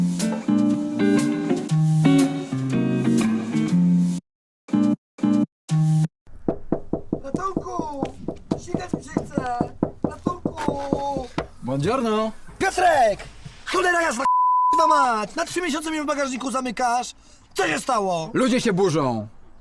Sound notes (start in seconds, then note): 6.4 knocking